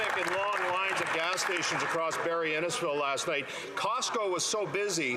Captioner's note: some Applause